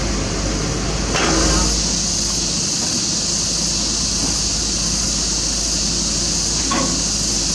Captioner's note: engine